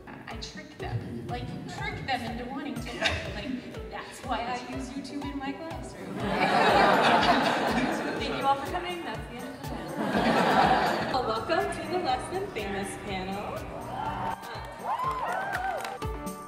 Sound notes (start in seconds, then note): 6.0 audience laughter; 13.6 audience applause